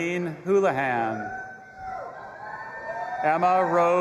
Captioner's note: audience applauding and cheering